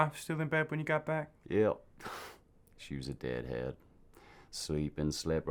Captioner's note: scoffs